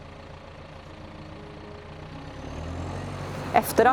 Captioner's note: tractor sound